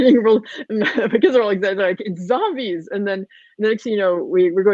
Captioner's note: voice muffled